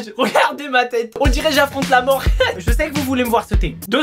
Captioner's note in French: rires